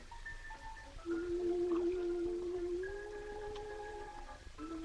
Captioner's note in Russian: она напевает